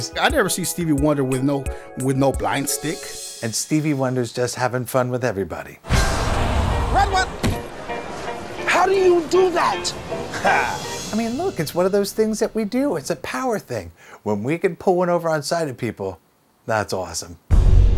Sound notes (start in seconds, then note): 7.3 thump; 10.5 laughs